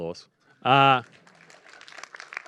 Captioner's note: applause